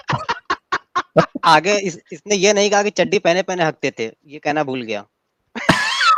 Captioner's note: laughter